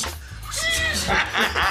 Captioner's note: laughter